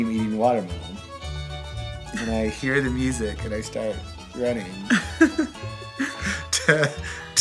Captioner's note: laughing